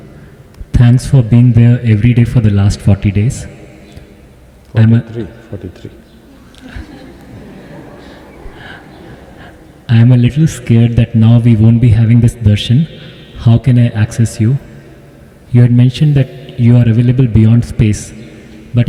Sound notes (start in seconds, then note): 6.3 laughter